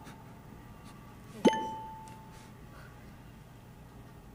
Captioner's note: game beeping